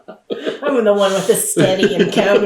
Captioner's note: laughter